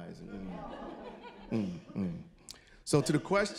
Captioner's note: audience chuckling